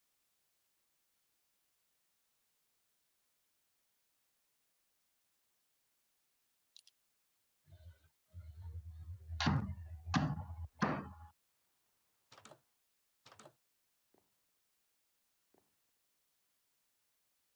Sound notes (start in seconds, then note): 10.1 banging of door